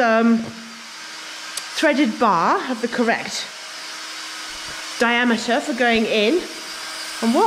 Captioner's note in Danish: hvirrende lyde